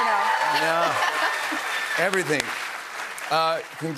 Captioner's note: applause